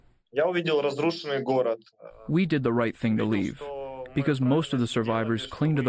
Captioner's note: through translator